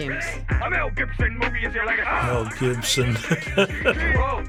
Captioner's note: laughs